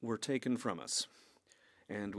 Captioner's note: speaking French